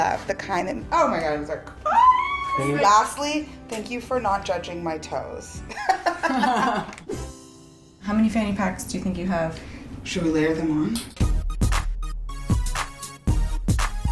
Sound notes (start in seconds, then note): 5.8 laughing; 10.2 funky music